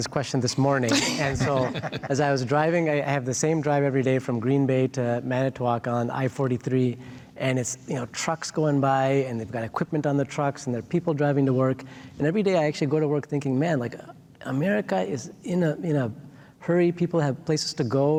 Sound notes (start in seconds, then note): 0.9 all laughing